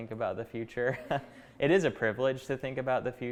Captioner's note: chuckling